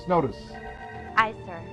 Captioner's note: klaxon